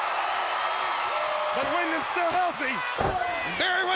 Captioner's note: crowd cheering